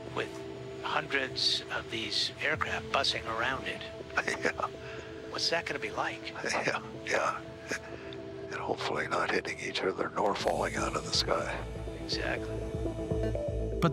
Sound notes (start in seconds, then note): 4.1 laughs